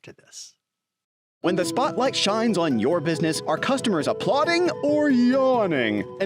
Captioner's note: voiceover